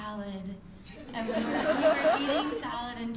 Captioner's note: laughter